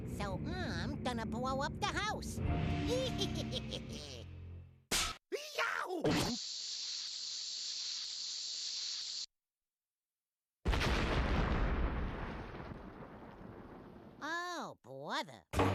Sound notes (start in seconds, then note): 2.8 laughing maliciously; 4.3 snapping